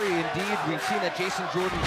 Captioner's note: fans chanting